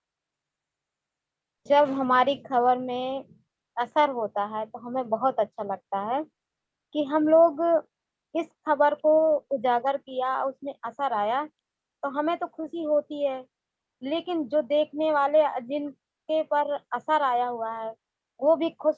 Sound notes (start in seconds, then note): 1.8 speaks foreign language